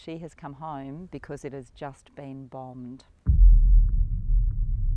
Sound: echoing boom

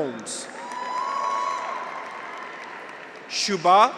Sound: graduates cheer; audience applauds

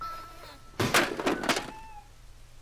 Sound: clattering

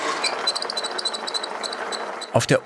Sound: squeaky whirring

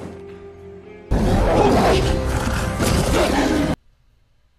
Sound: growling

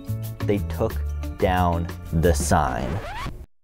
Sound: record scratch

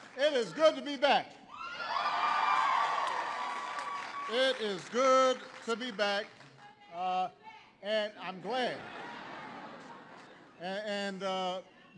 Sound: laughter

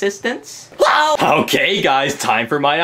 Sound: Luigi screams

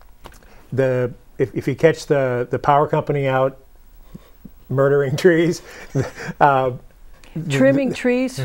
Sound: laughing

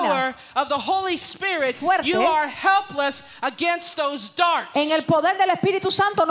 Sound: Spanish; Spanish

